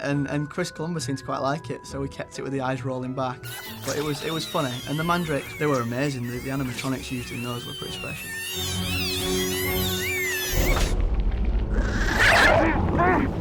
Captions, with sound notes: Chris Columbus seemed to quite like it. So we kept it-- The eyes rolling back. But it was funny. And the Mandrakes, they were amazing. The animatronics used in those were pretty special. [MANDRAKES SCREAMING] [GRINDYLOW GROWLING]